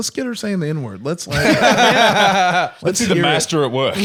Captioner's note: all laughing